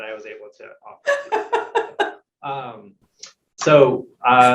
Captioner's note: laughing